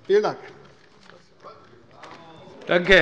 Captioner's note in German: Beifall bei Abgeordneten der CDU